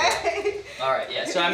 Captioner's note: chuckles